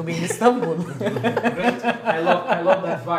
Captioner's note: Gülüşmeler